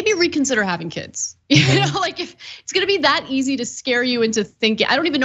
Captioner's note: laugh